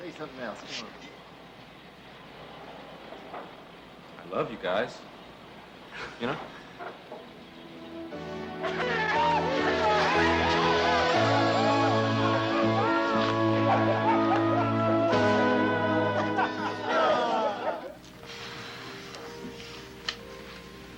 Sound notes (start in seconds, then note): 8.2 men cheering; 9.0 slow gentle music